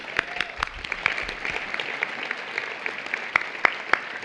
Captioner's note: applause